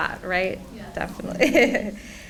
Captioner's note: laughs